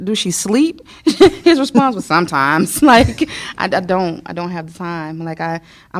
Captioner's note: laughter